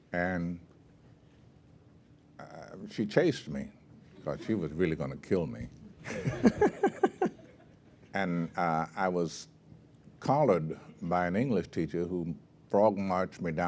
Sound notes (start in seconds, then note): 6.0 laugh